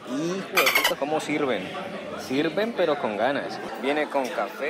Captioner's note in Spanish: sonido de delfín